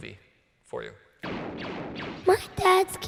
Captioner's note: rifles firing